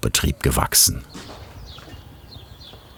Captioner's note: birds chirping